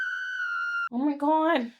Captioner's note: siren blaring